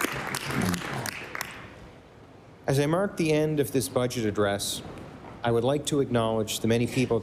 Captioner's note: applause